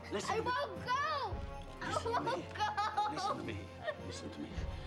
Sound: sobbing

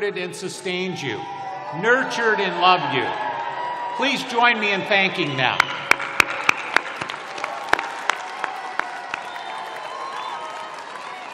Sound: applause

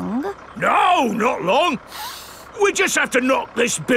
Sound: sniffs

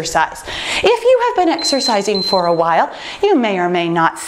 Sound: timer beeping

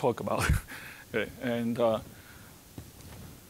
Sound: chuckling

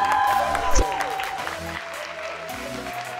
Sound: cheers and applause

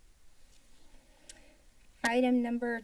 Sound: paper rustling sound; tongue clicking

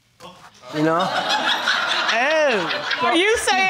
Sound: audience laughing

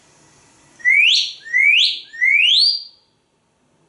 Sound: whistles

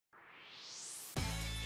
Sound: swoosh

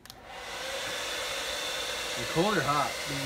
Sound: whirring

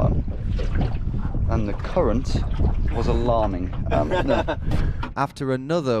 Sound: laughs

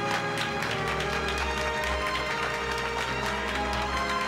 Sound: applause

